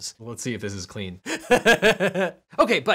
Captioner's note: laughing